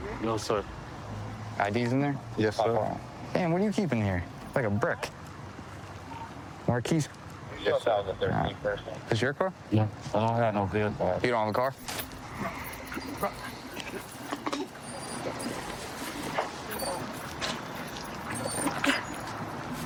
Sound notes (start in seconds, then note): 16.2 dog whining